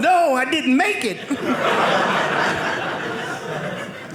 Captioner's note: audience laughing